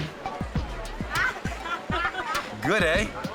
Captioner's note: participants laughing